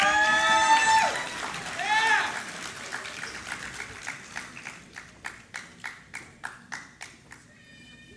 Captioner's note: applause